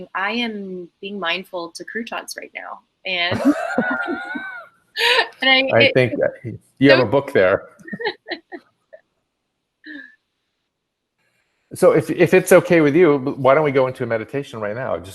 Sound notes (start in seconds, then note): 3.3 all laughing; 6.9 all laughing